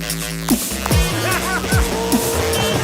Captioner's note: claps like a rich guy; does a cackle